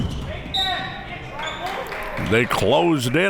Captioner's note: whistle tweeting